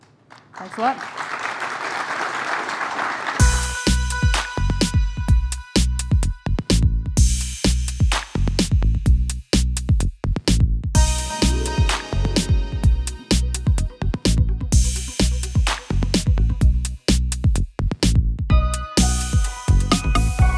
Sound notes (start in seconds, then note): 1.8 applause